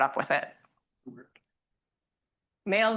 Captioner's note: student speaks faintly